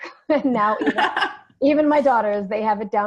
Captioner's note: laughing